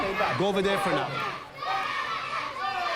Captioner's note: children chanting